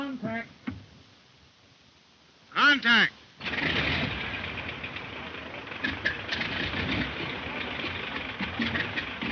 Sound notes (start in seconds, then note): 3.4 engine revving